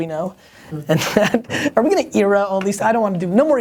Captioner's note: laughs